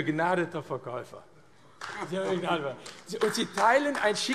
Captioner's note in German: Beifall AfD